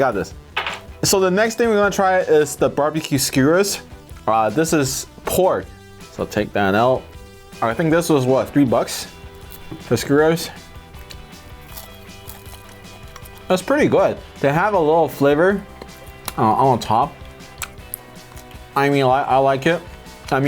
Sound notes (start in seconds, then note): 10.9 chews